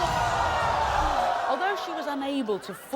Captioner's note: crowd shouting